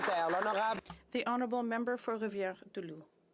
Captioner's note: some Applause